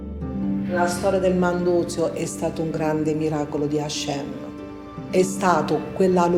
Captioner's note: speaks in foreign language